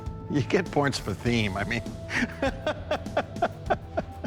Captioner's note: laughs